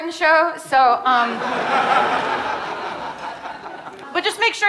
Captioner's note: audience laughing